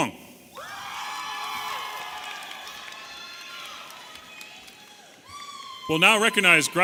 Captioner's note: audience applauding and cheering